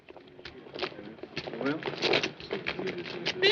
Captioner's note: people chattering indistinctly